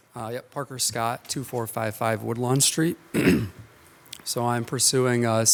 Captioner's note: clears throat